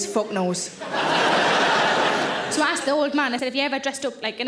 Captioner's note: audience laughing